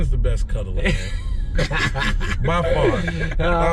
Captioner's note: laughing